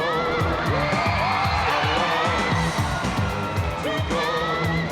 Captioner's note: crowd cheering